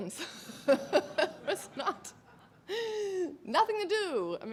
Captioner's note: laughs